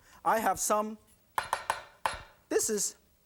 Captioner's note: knife chopping noise